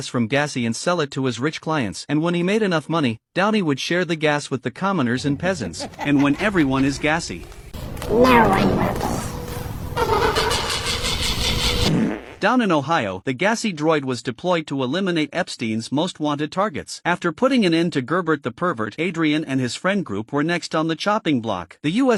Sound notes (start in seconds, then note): 5.0 chuckling